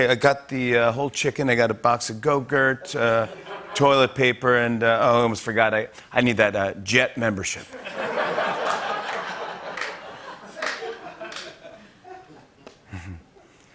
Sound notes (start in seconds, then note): 7.7 laughter; 11.0 chuckles